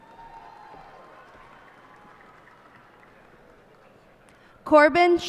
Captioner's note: cheers and applause